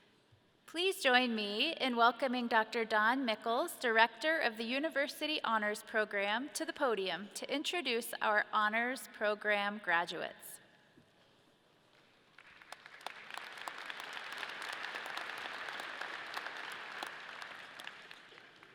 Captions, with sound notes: Please join me in welcoming Dr. Don Mykles director of the university honors program to the podium to introduce our honors program graduates. (audience applause)